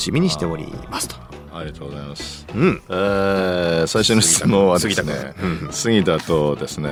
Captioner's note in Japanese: 咳払い